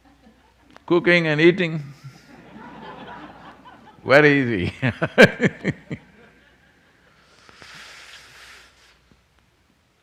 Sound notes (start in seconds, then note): 1.8 laughter